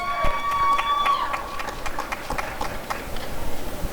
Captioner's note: applause and cheering